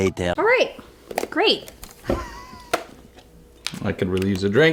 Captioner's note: laughs